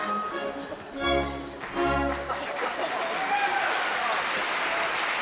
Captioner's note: audience cheering